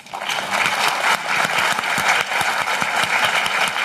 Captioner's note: applause